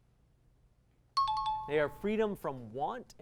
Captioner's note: timer